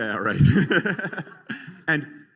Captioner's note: laughter